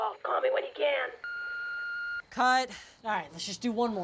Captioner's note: voicemail beeping